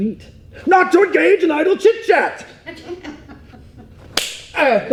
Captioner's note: claps